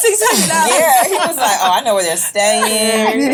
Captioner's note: laughs